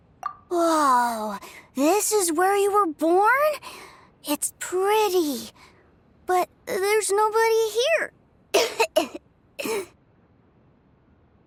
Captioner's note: cough